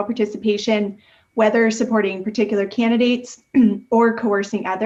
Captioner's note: clears throat